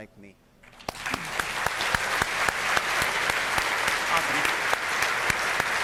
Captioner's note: audience applauding